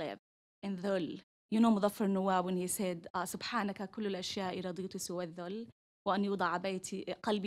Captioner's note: non-english